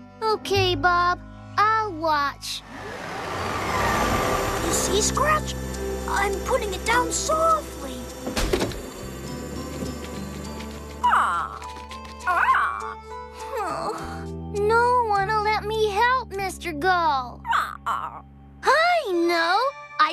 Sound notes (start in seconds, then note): 10.9 squawk, Squawk; 13.3 sighing; 17.6 squawk